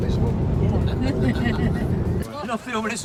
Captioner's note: laughter